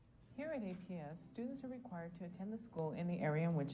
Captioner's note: voiceover